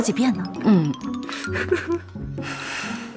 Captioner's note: satisfied laughter